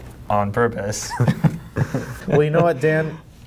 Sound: laughing

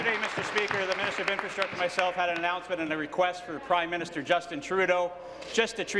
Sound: applause

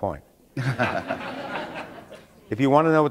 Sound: laughter

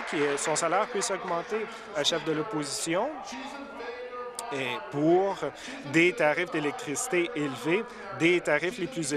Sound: applause

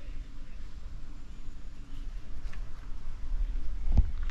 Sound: scratching

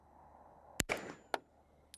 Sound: bang

